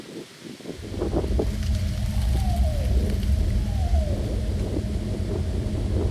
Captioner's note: wind gusting; animal hooting